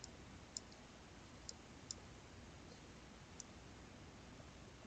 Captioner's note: mouse clicking